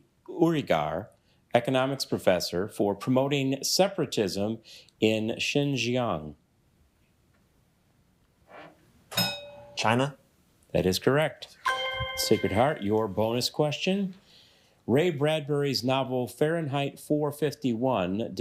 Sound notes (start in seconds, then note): 9.2 bell rings; 11.6 bell dings